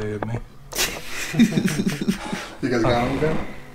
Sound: group laughing

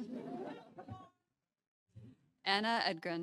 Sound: audience chuckling

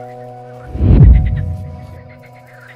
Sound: whoosh

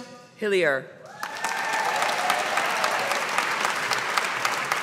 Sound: audience applauding

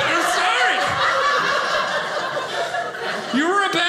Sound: audience laughing

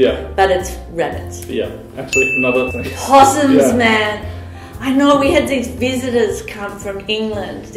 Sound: ding!

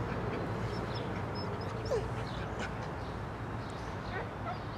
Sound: dog whimpers

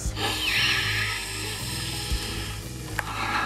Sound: breathing in

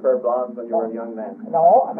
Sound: laughing

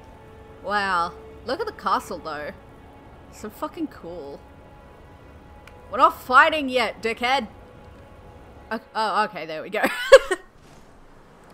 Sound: laughter

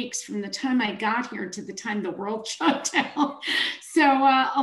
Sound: chuckles

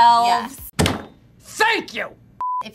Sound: table banging

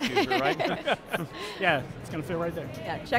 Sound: all laughing

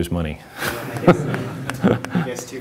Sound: laughter

